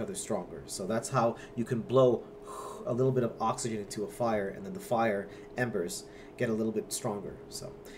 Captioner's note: blows air slowly